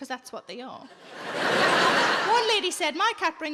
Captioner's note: audience laughing